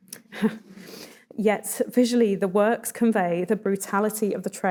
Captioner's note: chuckles